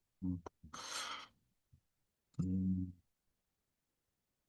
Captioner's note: breath